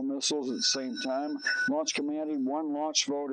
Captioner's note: alarm blaring